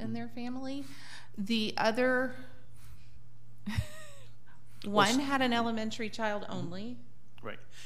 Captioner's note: laughs